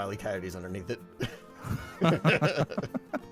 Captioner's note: laughing